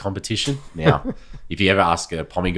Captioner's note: chuckling